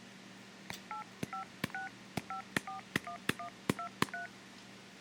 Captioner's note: phone tapping and beeping